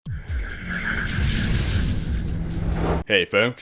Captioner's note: intro Noise